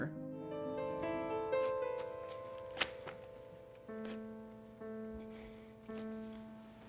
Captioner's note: soft piano music; Carly Beth sniffling